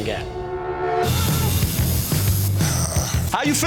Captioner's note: needle buzzing; sighing